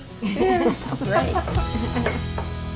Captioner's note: laughter